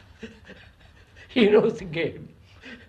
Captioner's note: laughs